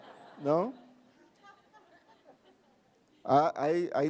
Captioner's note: laughing